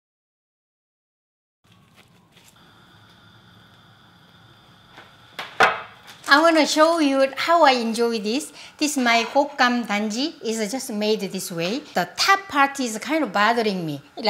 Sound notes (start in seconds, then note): 5.3 box thuds